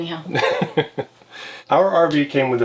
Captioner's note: laughs